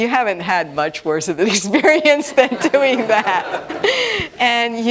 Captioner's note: laughter